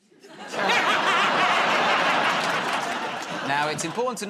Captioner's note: laughter